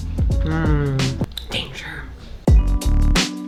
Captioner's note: whispers